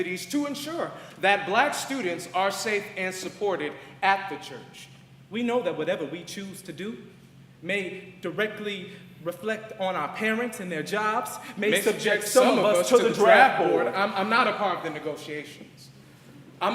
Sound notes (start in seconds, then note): none